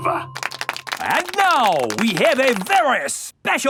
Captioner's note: applauding